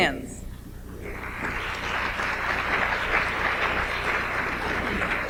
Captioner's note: audience applauds